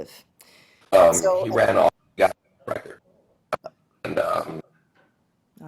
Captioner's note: student's mic unmuted